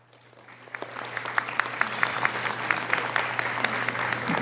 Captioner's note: audience applauding